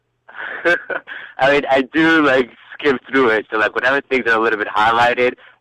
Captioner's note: laughs